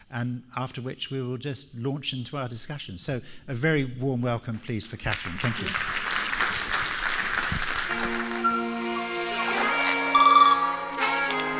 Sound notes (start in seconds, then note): 5.0 crowd applauds; 7.9 upbeat music